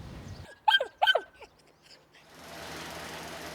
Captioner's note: woof woof